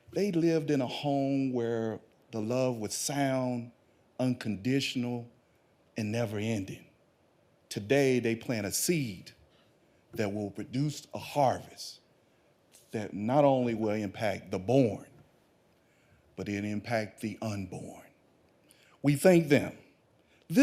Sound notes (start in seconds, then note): none